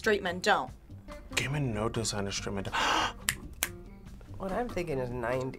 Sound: gasps

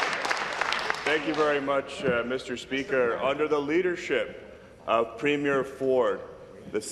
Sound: applause; applause and cheering

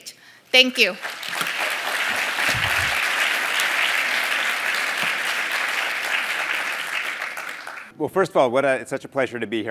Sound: applause

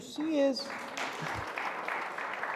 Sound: audience applauding

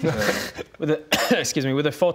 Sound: cough

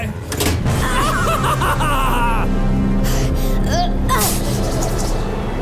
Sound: Joker laughs; Batgirl grunts

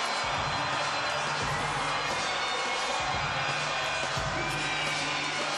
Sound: cheering and Applause

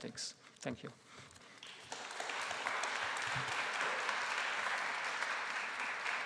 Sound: applause

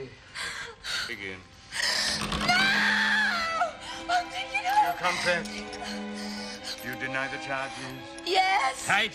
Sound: screaming

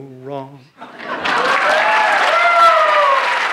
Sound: applause

